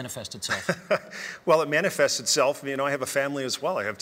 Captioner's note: laughing